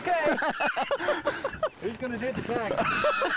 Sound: group laughing; laughing

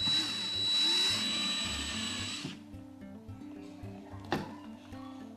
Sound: drill whizzing noise

